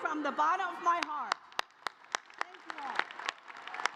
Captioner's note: applause